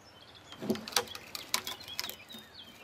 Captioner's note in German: Knarzen